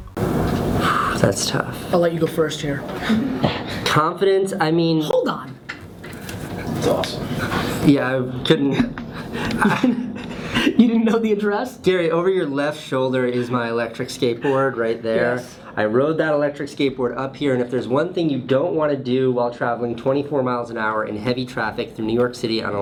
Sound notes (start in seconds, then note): 3.0 laughs; 6.3 voiceover; 9.0 laughs